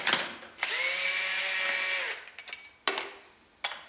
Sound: drill whirrs

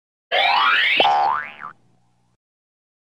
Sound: boink!

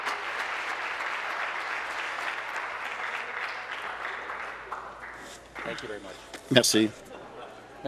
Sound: applause

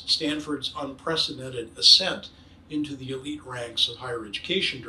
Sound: none

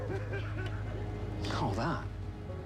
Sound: Neal laughing

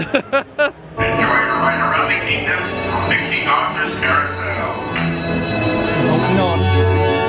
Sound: laughs; bell ringing

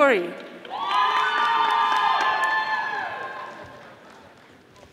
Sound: audience applauding

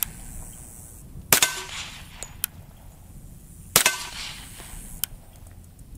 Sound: gun shots

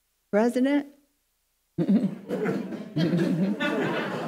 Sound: audience laughing

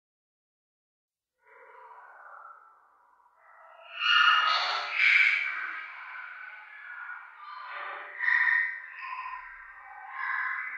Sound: haunted shrills

